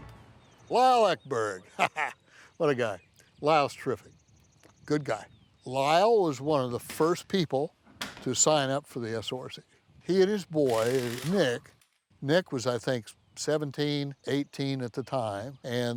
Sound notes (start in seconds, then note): 1.5 laughs